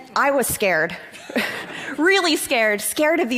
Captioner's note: laughter